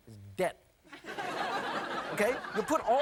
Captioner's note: audience laughing